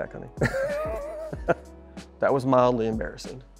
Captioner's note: laughing